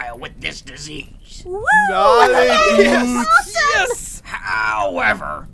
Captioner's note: audience cheers